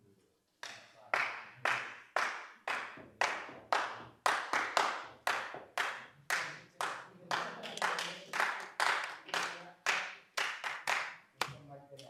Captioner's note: starts clapping and stomping